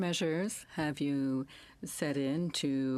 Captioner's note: speaking in French